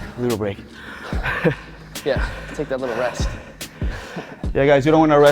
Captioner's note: chuckles